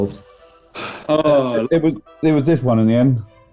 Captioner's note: sighs